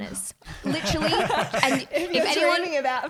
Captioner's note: laughing